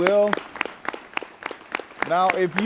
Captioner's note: audience clapping lightly